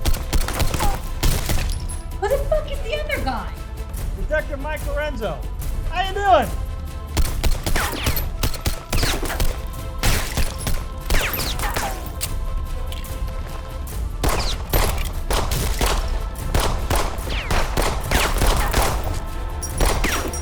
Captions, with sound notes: (gunshots) - Who the fuck is the other guy? - Detective Mike Lorenzo. How ya doing? (gunshots) (gun clicks) (gunshots) (gunshots)